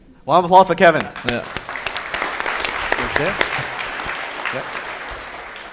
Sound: audience applauding

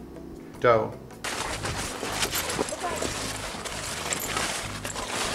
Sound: leaves rustling

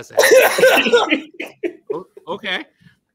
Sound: laughs

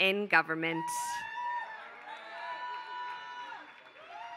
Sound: applause

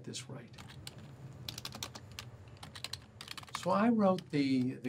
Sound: typing

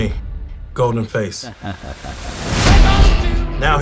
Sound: goldenface laughing

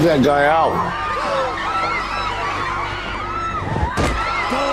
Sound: screaming

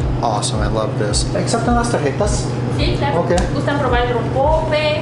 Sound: speaking in Mexican

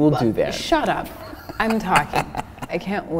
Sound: laughing

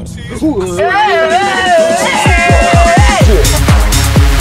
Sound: people yelling

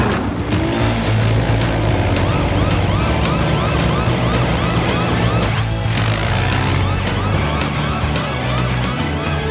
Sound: sirens blaring

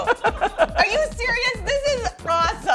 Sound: laughs

